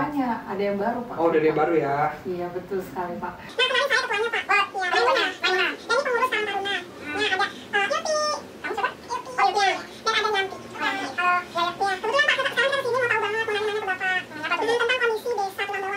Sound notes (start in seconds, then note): 3.4 chatting